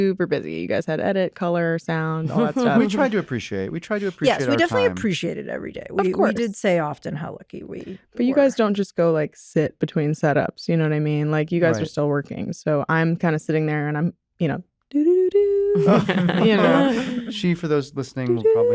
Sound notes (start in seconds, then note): 14.9 vocalizes tune; 15.7 laughter